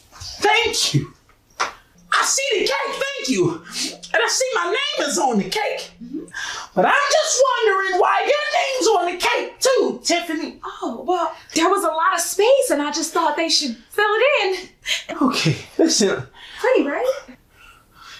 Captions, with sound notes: Thank you. I see the cake. Thank you... and I see my name is on the cake. but I'm just wondering why your name is on the cake, too, Tiffany. Oh... well... there was a lot of space and I just thought they should fill it in. Okay... listen... Pretty, right? (Giggling)